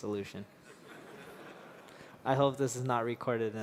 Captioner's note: laughter